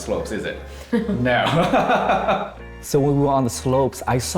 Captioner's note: laughs